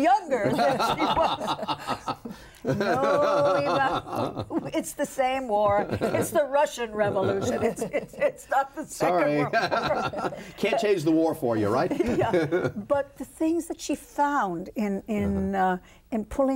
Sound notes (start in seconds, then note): 2.6 laughing; 9.2 laughs; 11.9 laughs